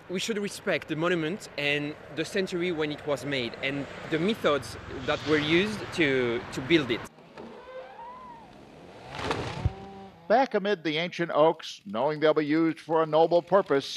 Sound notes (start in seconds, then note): 7.2 falling tree creaking